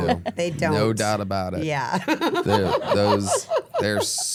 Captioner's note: laughs